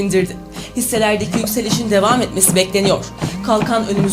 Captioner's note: phone vibrates